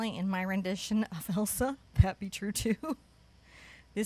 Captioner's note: chuckles